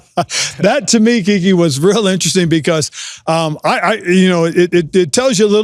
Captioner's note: laughs